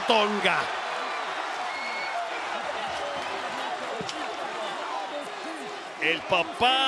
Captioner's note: applause